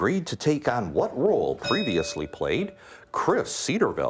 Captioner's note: bell ringing